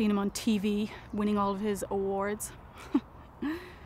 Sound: laughing

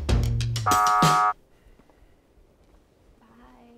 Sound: buzzer

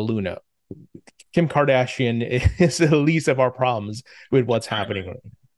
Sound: laughs

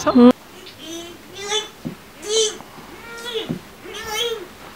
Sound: crazy alien sounds

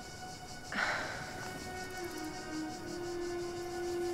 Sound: sighs

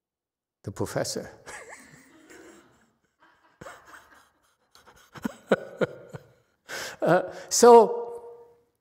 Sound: laughs

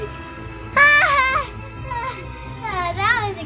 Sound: laughing

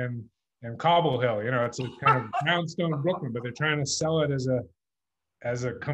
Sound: laughs

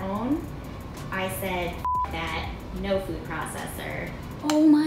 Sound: beep

